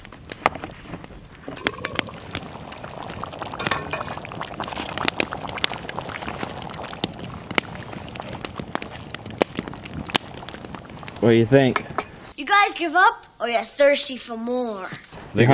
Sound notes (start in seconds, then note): 2.1 rapid boiling